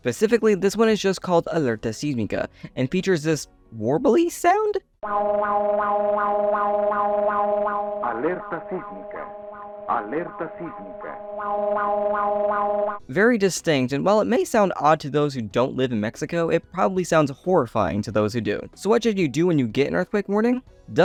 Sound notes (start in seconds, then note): 5.0 "wow" sound repeating